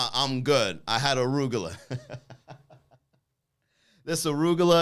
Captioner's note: laughs